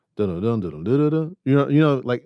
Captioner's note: hums